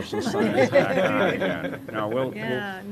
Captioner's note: laughter